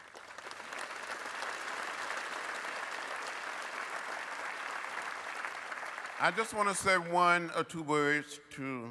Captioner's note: applause